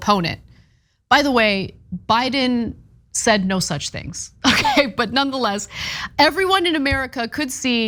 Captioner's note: laugh